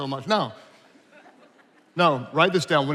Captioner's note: attendees laughing